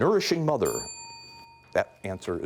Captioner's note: bell dinging